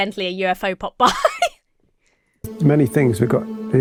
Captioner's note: giggles